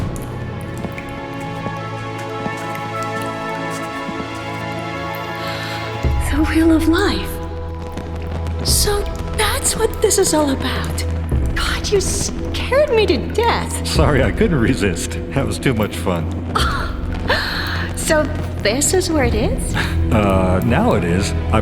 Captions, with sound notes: (wondrous orchestral music) (water drips) - (gasps) The Wheel of Life. So, that's what this is all about. God, you scared me to death. - Sorry, I couldn't resist. It was too much fun. (Mila chuckles) - So, this is where it is? - Uh, now it is.